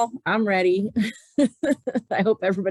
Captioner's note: laughing